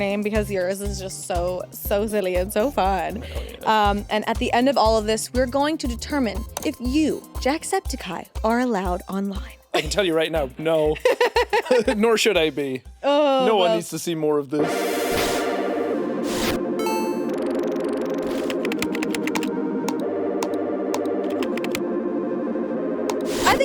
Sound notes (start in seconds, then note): 11.0 chuckles; 11.0 laughing; 15.6 playful music; 15.6 text swooshing; 16.7 graphics beeping; 18.9 keyboard typing; 18.9 mouse clicking